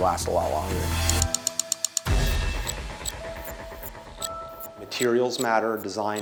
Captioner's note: image clicking